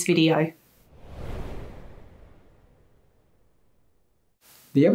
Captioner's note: wind blowing